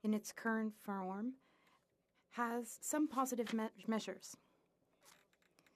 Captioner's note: speaking French